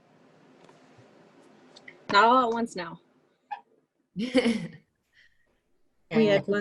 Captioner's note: laughter